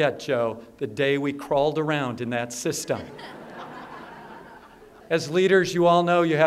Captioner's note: laughter